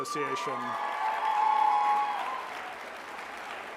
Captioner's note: applause